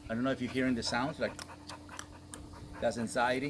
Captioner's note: clicks tongue